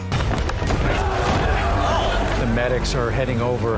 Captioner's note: crowd cheering